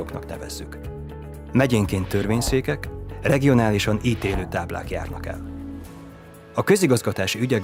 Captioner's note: swishing sound